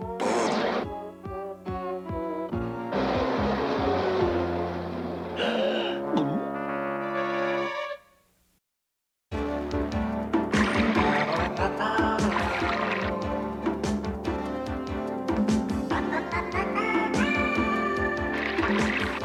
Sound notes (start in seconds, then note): 5.3 gasps; 5.3 gulp